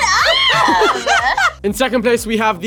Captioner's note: laughs